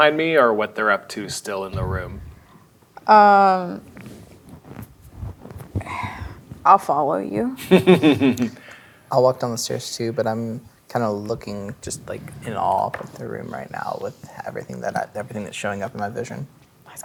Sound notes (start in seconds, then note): 5.8 sighs; 7.7 laughs